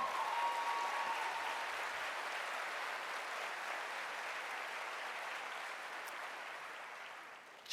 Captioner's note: applause